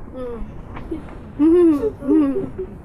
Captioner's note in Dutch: vriend weent